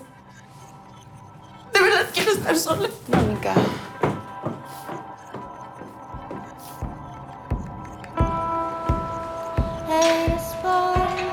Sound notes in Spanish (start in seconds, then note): 1.7 Sollozos